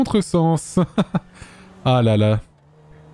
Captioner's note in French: il ricane